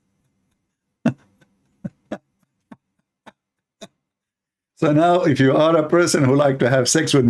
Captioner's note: Ketawa